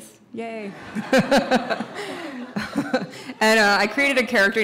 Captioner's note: audience laughs